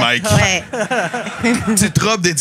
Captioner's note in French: rires